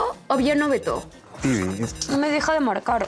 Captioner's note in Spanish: Suena el celular